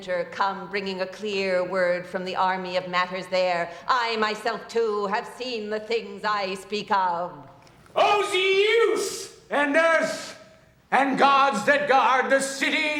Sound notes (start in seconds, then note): none